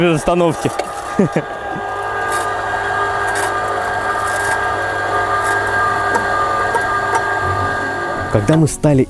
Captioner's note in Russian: звук лебёдки